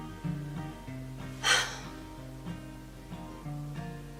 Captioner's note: sighs